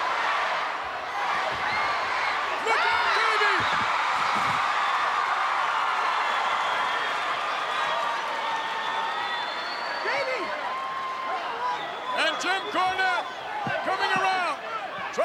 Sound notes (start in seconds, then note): 3.4 Jerry yells; 4.1 crowd cheering